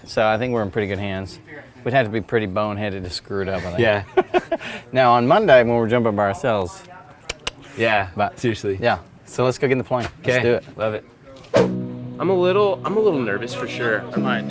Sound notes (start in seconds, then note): 7.3 clicks tongue